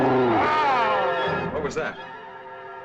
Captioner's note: growls; shouts